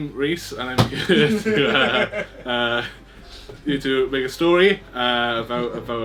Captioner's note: laughs